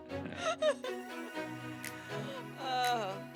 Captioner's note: laughter